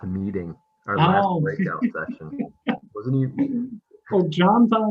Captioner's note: laughing